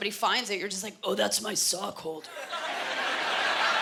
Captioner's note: gravely voice; laughter